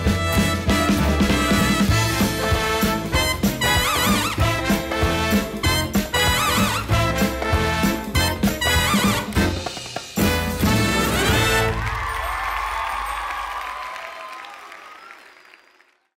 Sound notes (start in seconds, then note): 10.9 audience cheering